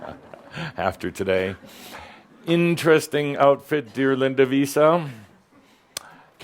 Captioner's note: chuckles